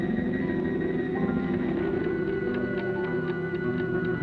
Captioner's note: clock ticking